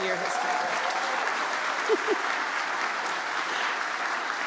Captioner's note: audience applauds